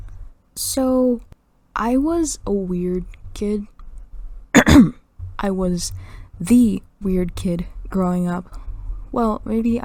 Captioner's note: clears throat